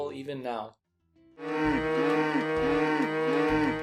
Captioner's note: loud mooing